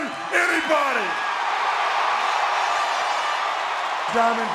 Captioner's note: audience cheering